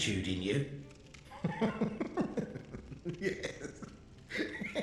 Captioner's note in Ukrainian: тихий в'їдливий сміх